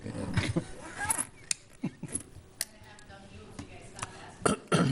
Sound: laughter

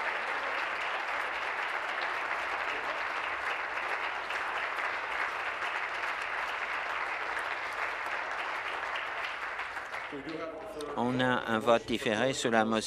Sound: applause; continued applause

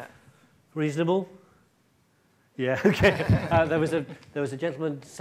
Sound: chuckles

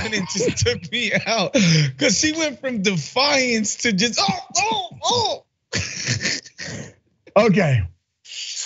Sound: laugh

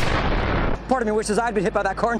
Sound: explodes

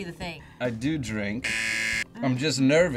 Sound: buzzer rings

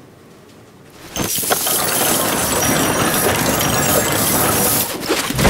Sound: cans clanging on the floor

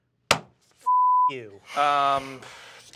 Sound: die clatters; table slams; beep

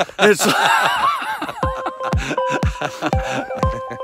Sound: both laughing

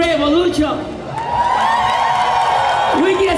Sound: cheers

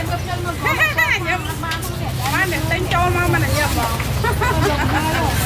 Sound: laughing

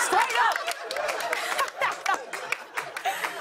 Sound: laughs

